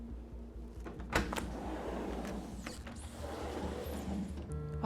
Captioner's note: door latch clicks; phone buzzes